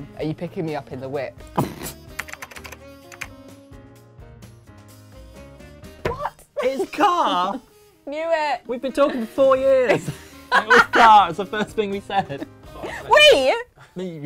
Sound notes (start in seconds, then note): 2.1 typing; 2.4 relaxed music